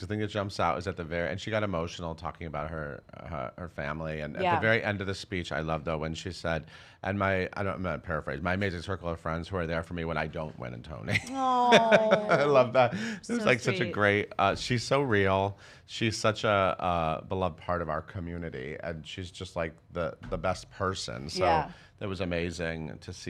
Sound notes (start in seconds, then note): 11.2 laughing